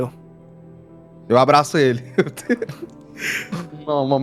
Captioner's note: laughs